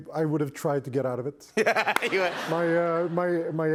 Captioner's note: laughter